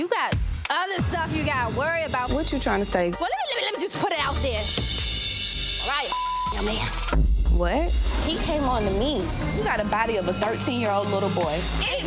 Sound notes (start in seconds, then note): 6.0 beep